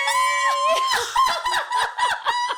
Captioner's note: laughing